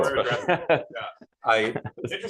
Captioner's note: laughter